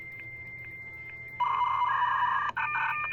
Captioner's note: beeping